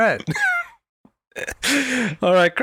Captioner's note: laughs